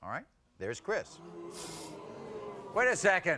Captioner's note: booing